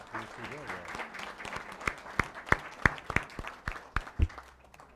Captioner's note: applause